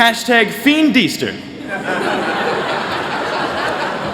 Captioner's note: laughter